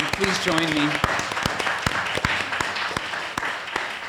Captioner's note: applause